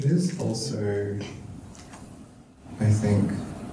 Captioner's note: none